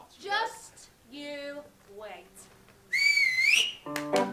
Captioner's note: sharp whistle; lively music